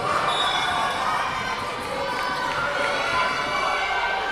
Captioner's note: whistle blowing